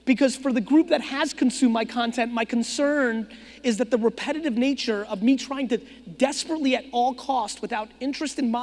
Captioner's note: none